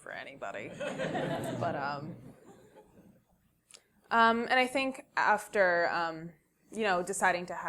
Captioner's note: laugh